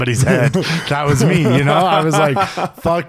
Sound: laughing

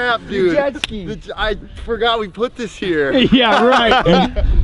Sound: laughs

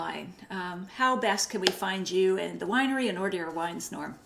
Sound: claps

